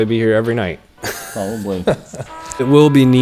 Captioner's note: laughing